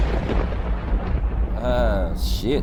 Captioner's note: thunder crashing